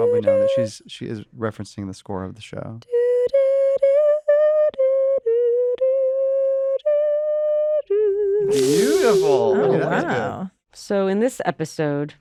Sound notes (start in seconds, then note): 2.5 hannah vocalizes tune from "hacks" soundtrack